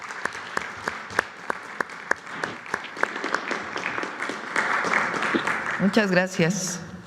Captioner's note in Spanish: aplausos